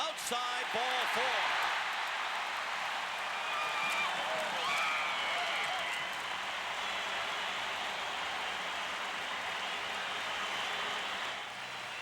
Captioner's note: applause